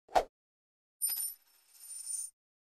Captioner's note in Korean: 동전 구르는 소리